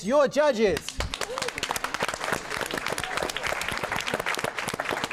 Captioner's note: applause